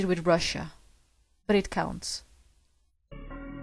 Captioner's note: whispers; whisper